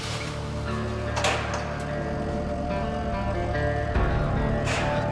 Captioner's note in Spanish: Sonido al abrir la puerta; Ruido del vehículo